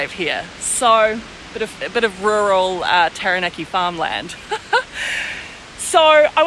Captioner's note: laughs